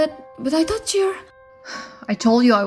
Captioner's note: sigh